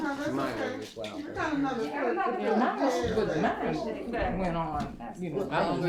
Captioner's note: artists chattering